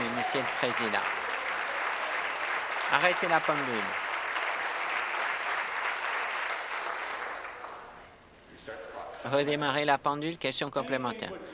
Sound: applause

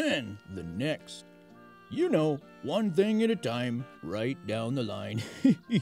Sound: laughs

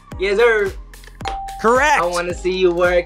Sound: ding

